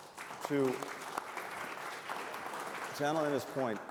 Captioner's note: applause